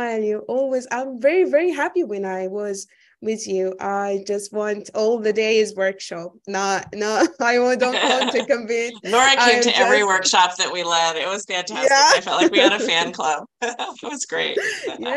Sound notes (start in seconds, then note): 13.5 chuckling